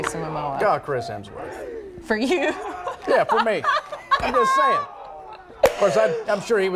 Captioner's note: laughter